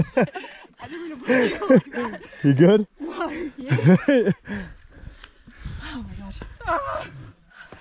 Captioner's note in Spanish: La risa